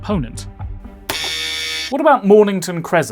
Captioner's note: buzzer